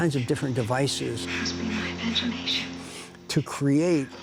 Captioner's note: ethereal sounds